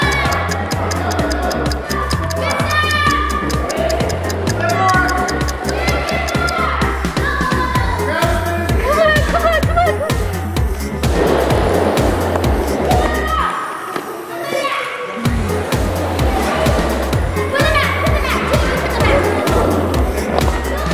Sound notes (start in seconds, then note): 0.0 everyone shouting; 4.5 upbeat music; 11.1 wheels and ball clattering; 15.8 everyone shouting